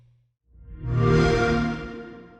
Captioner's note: xbox sound